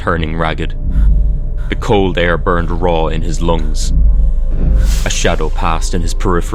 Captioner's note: sound of something whooshing past to the left